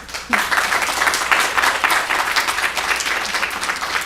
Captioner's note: applause